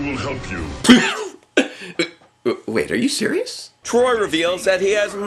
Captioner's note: laugh!